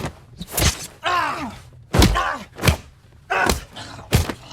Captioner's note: all grunting